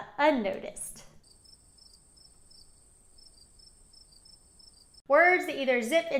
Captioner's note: crickets chirping